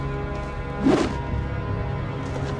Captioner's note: sword swishes air